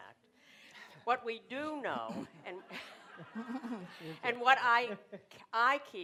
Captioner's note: laughter